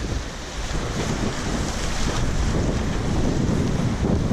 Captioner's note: waves splashing